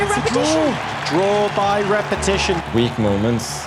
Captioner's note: crowd cheering, applauding